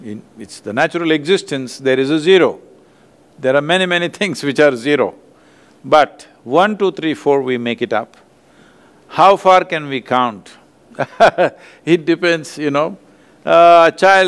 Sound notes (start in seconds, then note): 11.0 laughs